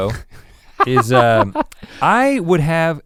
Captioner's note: Link chuckles